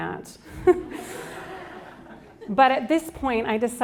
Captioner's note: chuckles; audience laughs